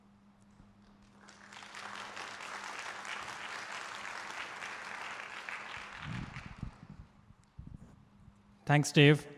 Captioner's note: applause